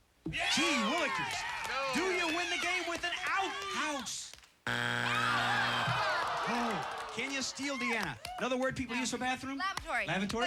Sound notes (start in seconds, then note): 4.6 buzzer